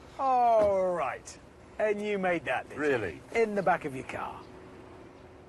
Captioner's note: none